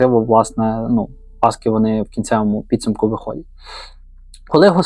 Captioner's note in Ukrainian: сопіння